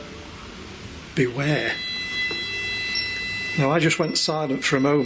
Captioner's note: machine beeping